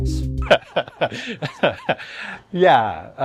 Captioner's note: laughs